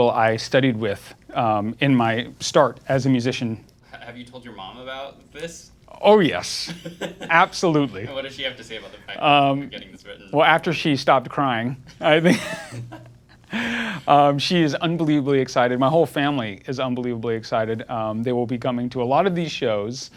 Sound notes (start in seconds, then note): 6.6 laughing; 12.0 all laughing